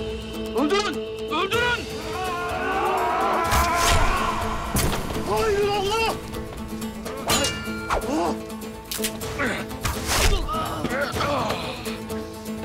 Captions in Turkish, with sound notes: Öldürün! Öldürün! (Bağırma sesleri) (Ok saplanma sesi) Haydır Allah! (Dövüş sesleri) (Ok kırılma sesi) Ah. (Ok saplanma sesi) Ah.